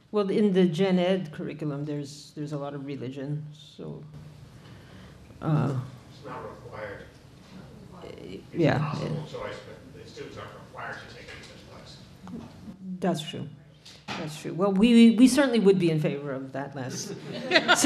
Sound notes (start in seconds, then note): 11.4 speaking off mic